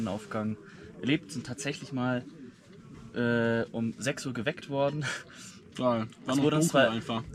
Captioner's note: laugh